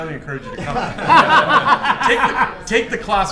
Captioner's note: laughter